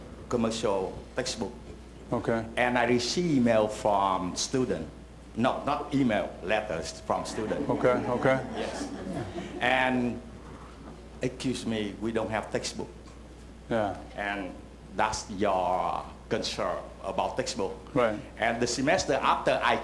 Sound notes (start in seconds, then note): 7.3 laughter